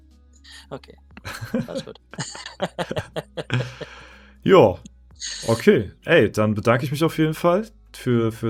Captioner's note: laughter